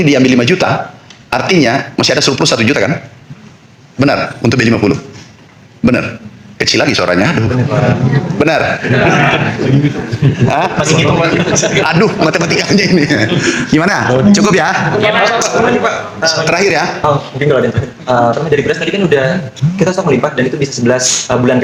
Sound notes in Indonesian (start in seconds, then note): 8.7 tertawa; 16.5 tertawa